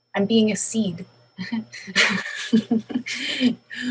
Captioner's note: laughing